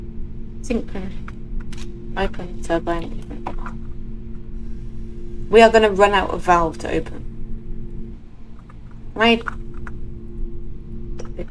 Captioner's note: flashback to every alarm going off at once